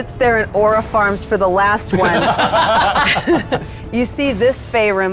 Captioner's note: players laughing